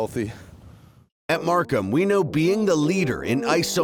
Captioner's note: voiceover